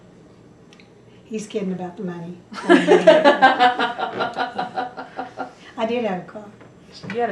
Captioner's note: laughter